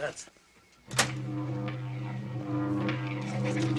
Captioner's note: electricity buzzing